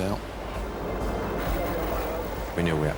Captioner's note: boat droning; wind whooshing